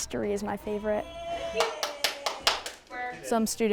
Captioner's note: student clapping